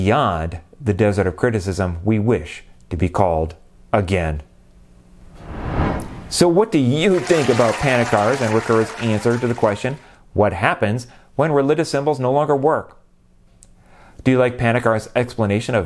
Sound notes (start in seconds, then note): 7.0 applause